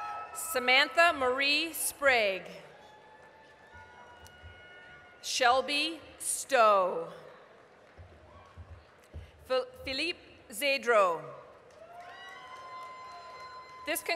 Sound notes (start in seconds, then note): 0.0 applause, cheering; 2.7 applause; 7.4 applause; 11.6 applause, cheering